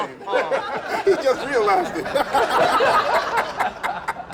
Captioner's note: laughter